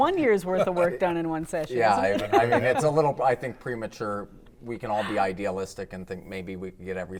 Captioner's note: laughter